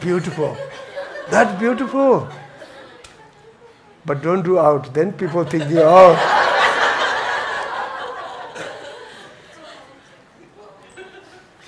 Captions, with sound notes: That's beautiful, that's beautiful. But don't do it outside, people think the oh! (laughs)